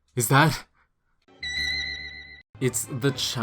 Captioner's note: spooky noise